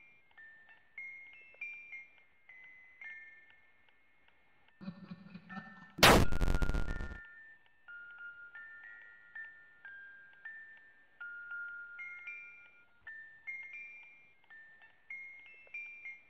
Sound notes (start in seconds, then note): 6.0 the Bite sound effect